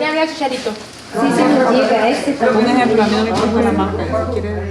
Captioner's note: discussion in Spanish